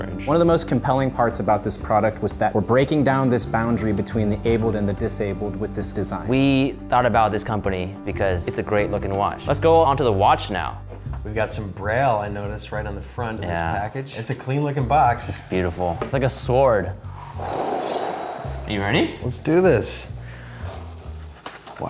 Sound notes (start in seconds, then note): 17.2 swooshing